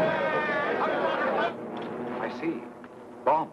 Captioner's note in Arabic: دوي انفجار; حشد من الناس يصرخون